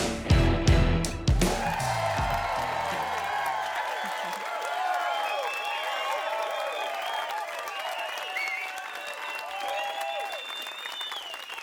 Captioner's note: crowd cheering and applause